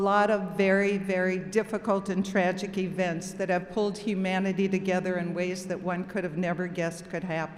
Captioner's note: none